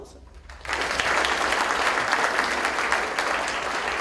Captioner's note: applause